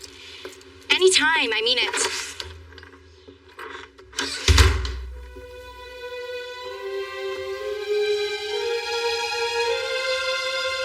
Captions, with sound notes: - AnAny time, I I mean it. (door shshuts) (dramamatic musisic)